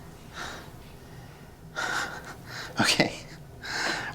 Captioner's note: Miles chuckles